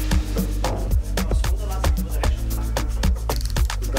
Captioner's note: Gespräche im Hintergrund